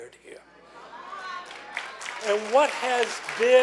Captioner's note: clapping